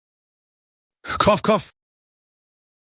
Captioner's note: cough cough